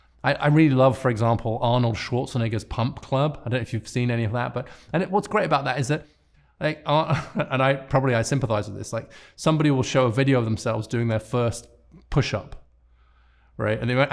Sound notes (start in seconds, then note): 7.0 chuckling